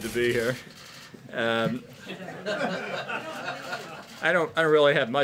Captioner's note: laughter